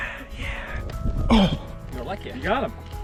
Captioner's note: man speaking in foreign language; grunts